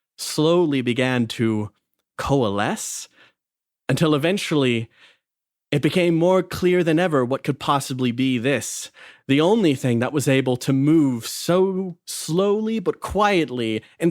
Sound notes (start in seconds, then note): none